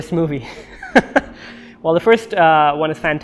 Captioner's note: laughs